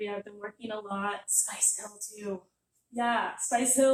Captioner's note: stage whisper